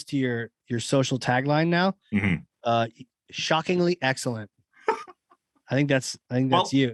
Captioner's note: laugh